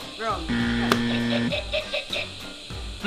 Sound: incorrect buzzer

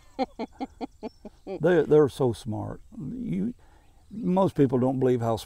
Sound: laughing

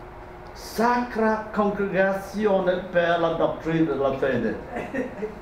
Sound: speaking a foreign language

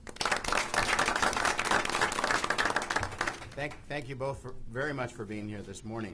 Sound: applause

